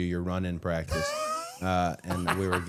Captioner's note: Matt laughing